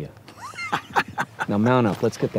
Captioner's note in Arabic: يضحك